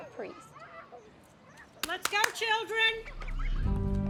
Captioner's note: Sister Jean clapping; soothing music